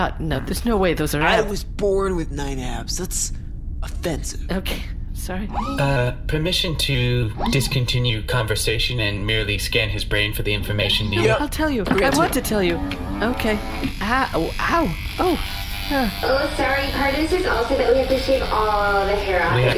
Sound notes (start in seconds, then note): 11.9 mechanical whirring noises; 14.0 surprised, pained yelps